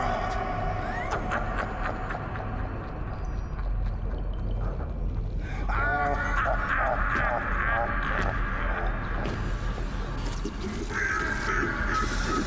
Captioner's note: demonic laughter and sirens